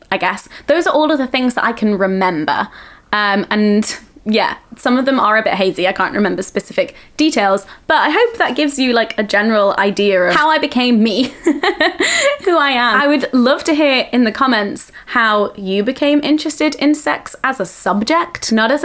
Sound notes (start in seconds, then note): 11.1 laughing